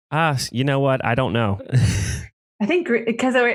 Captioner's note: laughs